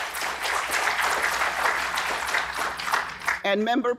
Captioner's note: audience applauding